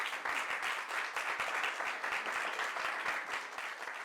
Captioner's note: audience applauds